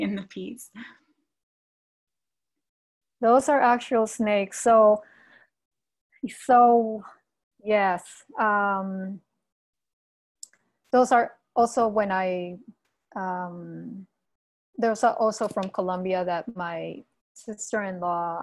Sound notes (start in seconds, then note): none